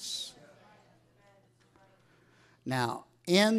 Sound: audience mumbling

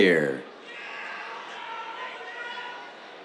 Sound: cheers

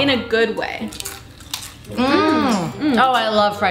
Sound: chewing noises

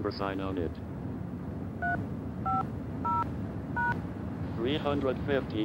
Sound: touch tone

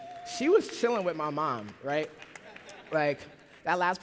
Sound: laughter

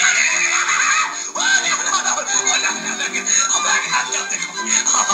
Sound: laughs

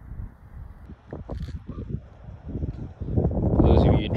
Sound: wind blowing

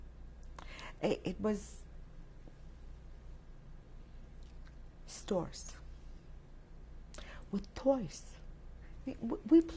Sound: pauses for 3 seconds

